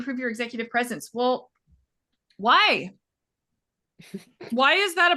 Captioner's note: laughing